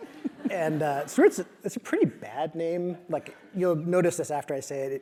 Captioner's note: laugh